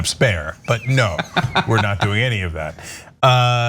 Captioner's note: laugh